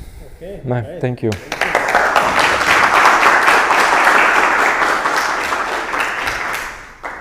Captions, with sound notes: OK. Thank you. [APPLAUSE]